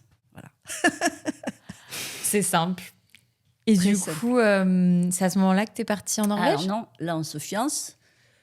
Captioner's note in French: rires